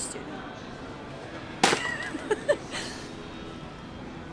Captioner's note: laughs